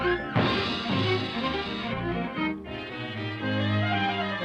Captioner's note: Felix crashing